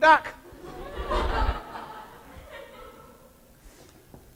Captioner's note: laughter